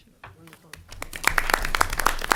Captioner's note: applause